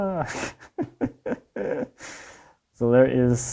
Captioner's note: laughing